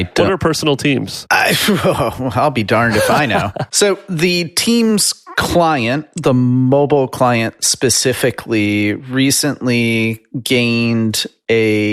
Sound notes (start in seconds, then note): 2.7 laughs